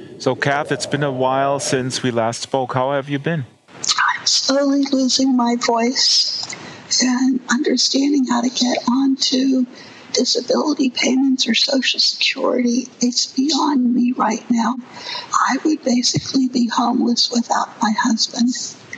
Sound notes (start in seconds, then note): 4.6 speaks with difficulty